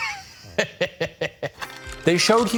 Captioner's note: laughing